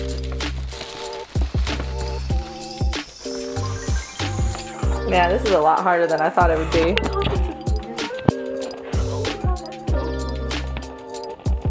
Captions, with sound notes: (paper rustling) Yeah, this is a lot harder than I thought it would be.